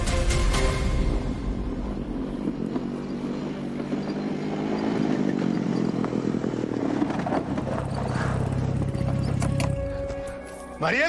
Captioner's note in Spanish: Ruido del motor